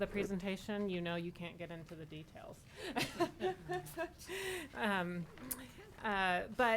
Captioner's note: laughing